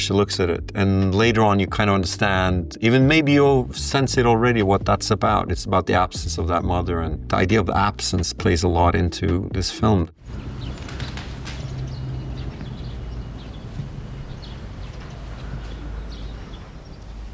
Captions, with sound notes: She looks at it, and later on, you kinda understand, even maybe you'll sense it already, what that's about. It's about the absence of that mother and the idea of the absence plays a lot into this film. (birds chirping) (footsteps thumping)